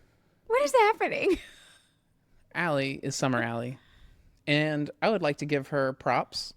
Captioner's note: laughs